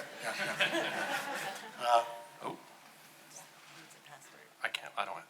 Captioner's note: audience laughing